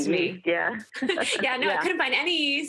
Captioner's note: laughs